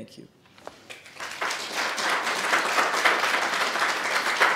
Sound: audience applauds

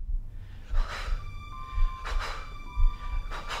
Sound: heavy breathing

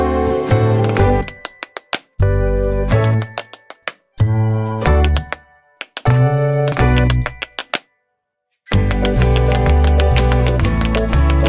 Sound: tap dance

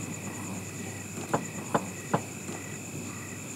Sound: knocking sound

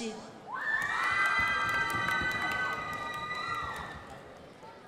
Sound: crowd applauding

